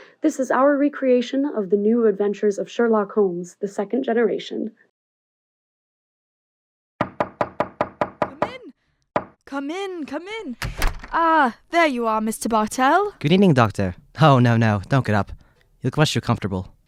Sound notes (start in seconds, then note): 7.0 we hear a knock on the door